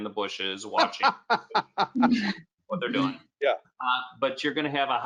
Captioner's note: laughs